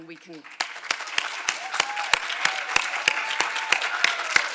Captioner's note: all applauding